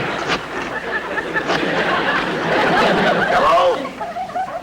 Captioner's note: audience Laughing